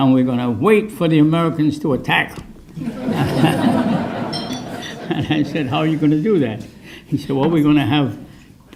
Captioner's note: laughter